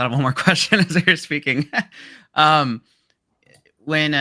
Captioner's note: laughs